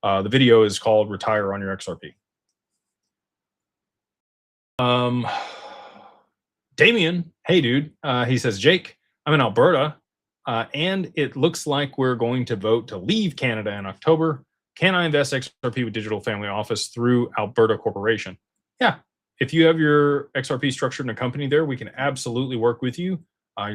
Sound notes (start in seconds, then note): 4.8 sighs